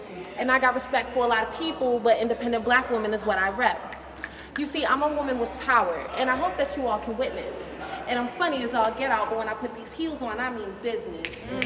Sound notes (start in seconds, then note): 3.9 audience member snapping